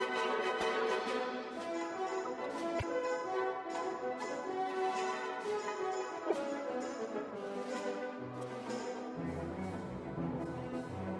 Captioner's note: speaking French